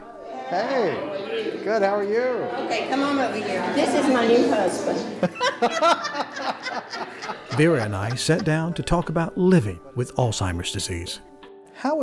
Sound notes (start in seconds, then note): 5.2 both laugh